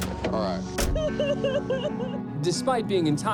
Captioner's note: sobbing